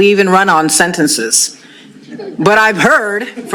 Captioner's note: laughter